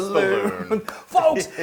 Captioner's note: laugh